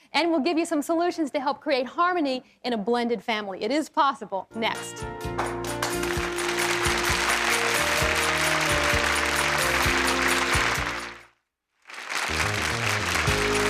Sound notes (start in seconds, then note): 5.2 applause and upbeat music